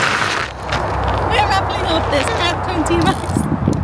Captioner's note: laughing